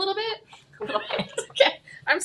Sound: chuckles

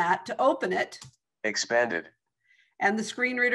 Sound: recorded voice

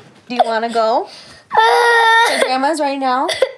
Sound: cries

